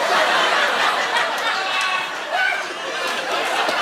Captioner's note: audience oohs; laughter